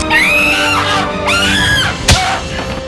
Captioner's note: woman screams